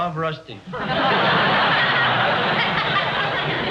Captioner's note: laughter